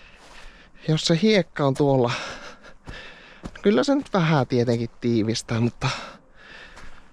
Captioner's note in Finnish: huokaus